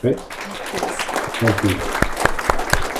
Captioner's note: audience applauds